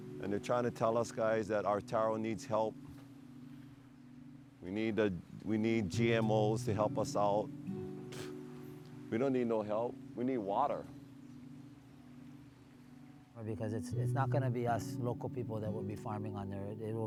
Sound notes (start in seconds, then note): 8.1 scoffs